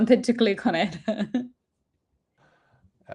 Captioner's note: laughs